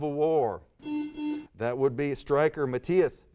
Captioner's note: buzzer sounds